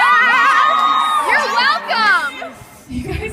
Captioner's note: audience cheers